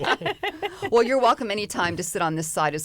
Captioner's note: laughter